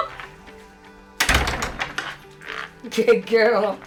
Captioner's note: door slamming